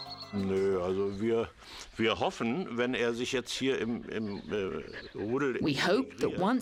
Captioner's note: speaking in foreign language